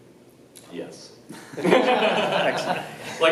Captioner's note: laughs